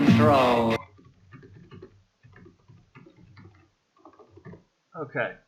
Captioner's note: typing continues